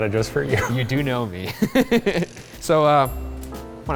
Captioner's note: laughing